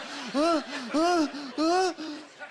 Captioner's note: panting